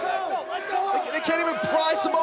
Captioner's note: cheers & boos